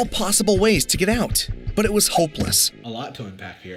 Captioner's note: Rick knocking